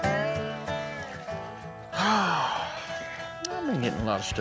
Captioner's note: sighs